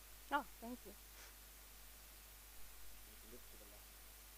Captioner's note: indistinct conversation